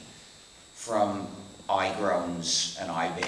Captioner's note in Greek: none